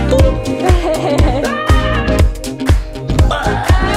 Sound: laughing

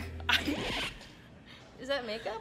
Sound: record scratching

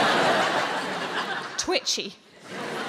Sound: audience laughing

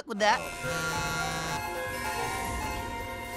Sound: buzzing, chiming

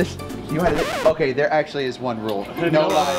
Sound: record scratches

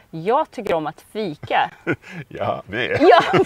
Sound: speaking Swedish

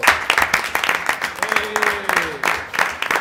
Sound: applause

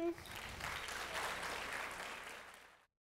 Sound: audience applauds

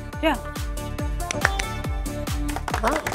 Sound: everyone claps; claps

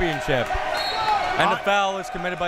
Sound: whistle tweeting

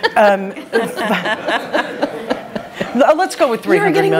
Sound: laughter

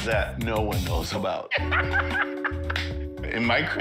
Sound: cheap ass man laughter

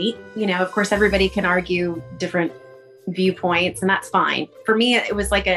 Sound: none

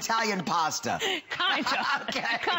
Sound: laughter

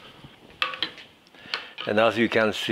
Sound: ladle clinking

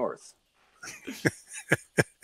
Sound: laughing

